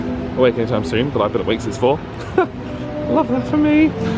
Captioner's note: laughs